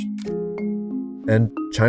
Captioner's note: camera clicks